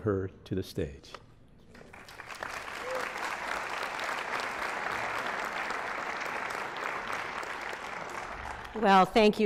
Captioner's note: applause